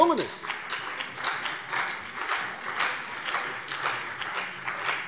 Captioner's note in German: Beifall CDU und BÜNDNIS 90/DIE GRÜNEN